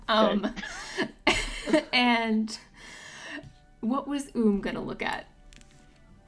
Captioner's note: laughs